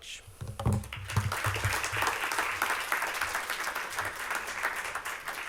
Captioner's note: applause